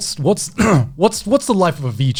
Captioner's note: clears throat